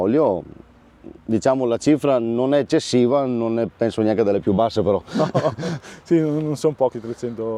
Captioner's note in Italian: sbuffare